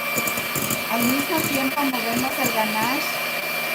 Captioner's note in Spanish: ruido de batidora